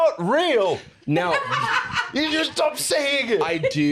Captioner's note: laugh